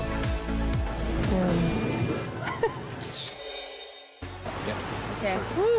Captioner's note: laughs